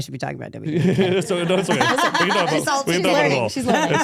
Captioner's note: laughing